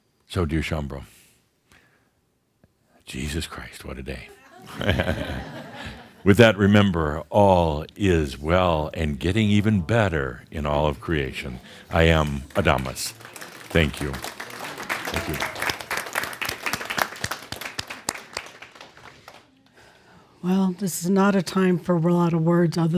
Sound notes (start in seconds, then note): 4.3 some chuckles; 17.2 audience applause